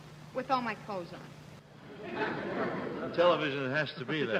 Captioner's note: laughing